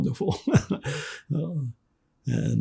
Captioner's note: laughing